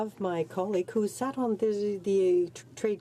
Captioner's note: speaking in French